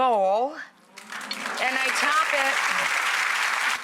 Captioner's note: audience applauds